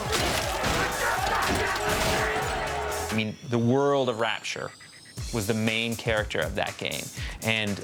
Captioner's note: shouting and smashing